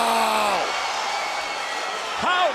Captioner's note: crowd cheering